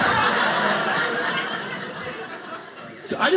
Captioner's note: audience laughing